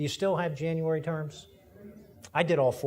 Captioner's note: audience murmurs agreement